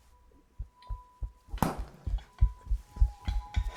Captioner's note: footsteps thudding